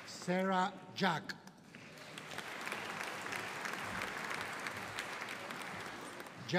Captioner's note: audience applauding